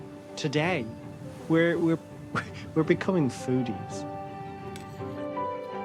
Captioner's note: laughs